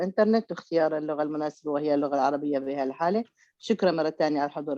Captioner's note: speaking Arabic